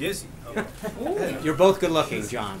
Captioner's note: laughter